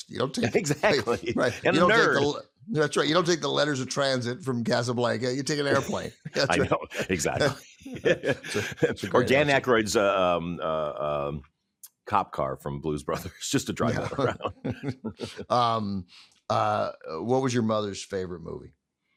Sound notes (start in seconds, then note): 7.8 both chuckling; 13.6 chuckling